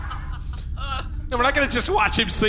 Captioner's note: laughing in the background; incoming transmission sound as Nermut tries to call back